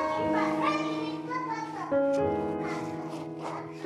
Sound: solemn piano music; toddler babbling; solemn piano music

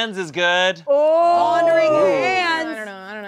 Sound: group exclaiming

